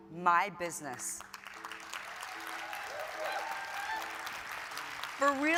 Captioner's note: audience applauding